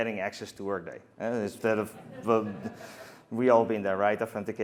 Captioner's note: laughter